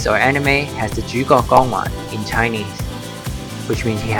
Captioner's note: Cantonese